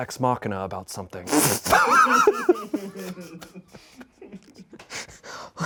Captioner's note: and crew laugh